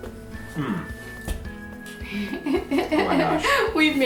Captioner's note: laughs